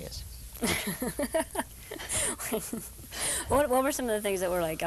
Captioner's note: laughing